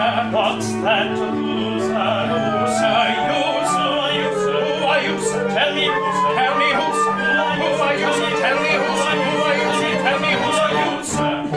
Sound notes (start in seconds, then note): none